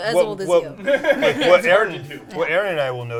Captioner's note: laughs